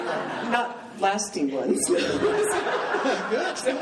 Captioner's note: laughing